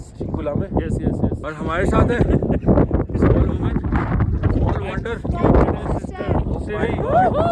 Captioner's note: windy